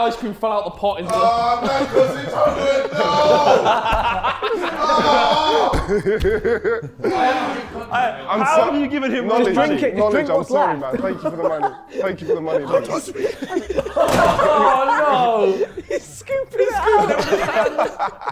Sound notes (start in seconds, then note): 4.0 Sidemen laughing; 5.2 KSI groaning; 6.3 Sidemen laughing; 13.3 Sidemen laughing